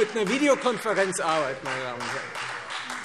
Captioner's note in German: Beifall Freie Demokraten